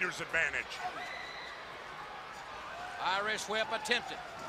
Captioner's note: crowd chatter